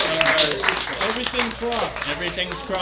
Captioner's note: applause